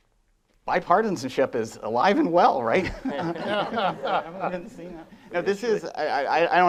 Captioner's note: laughing